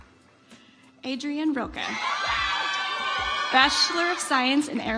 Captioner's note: audience applauds